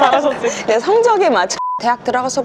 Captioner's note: beep